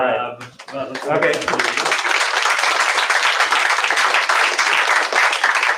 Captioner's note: applause